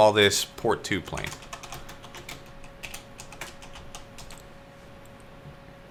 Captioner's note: keyboard keys typing